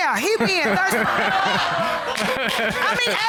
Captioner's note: audience exclaims, laughs